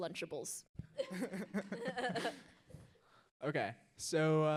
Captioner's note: audience laughs